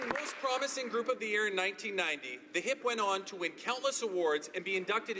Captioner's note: applause